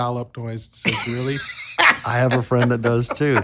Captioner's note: laughs